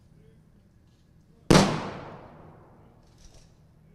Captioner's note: gunshot